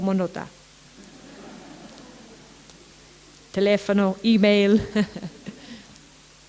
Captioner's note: laughter